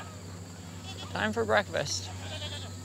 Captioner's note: goats bleat